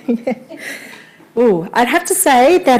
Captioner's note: laughing